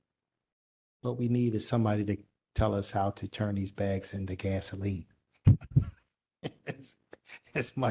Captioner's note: laughter